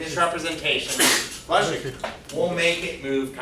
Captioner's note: student sneezes